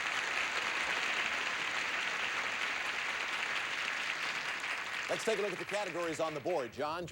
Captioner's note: audience applauding